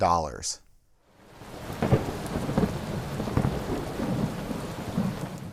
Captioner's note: thunder